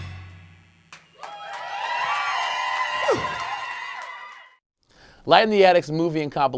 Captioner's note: applause